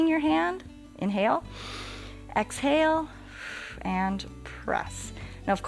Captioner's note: exhales; inhales